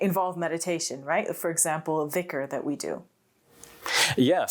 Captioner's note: speaks foreign language